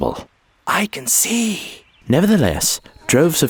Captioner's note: whispering